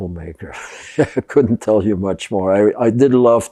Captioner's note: laughing